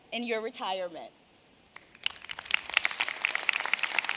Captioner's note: applause